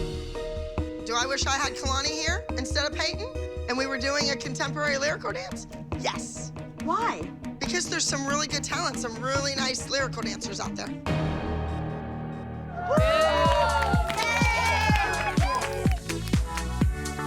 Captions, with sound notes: Do I wish I had Kalani here instead of Payton, and we were doing a contemporary lyrical dance? Yes. Why? Because there's some really good talent, some really nice lyrical dancers out there. (whooping and cheering) Ah! Yay!